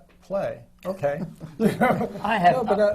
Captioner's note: laughter